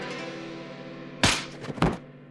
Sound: loud thwacks

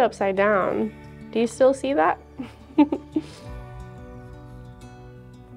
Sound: giggles

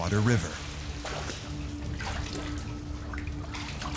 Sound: sloshing and splashing

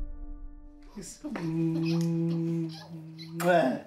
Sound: smooching

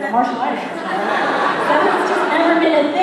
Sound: laughter

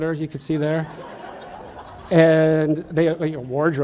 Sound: audience laughs

